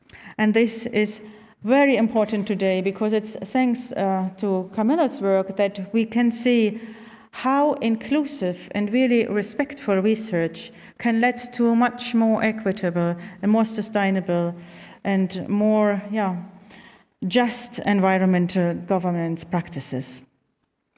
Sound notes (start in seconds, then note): none